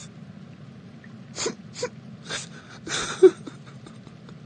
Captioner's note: weeps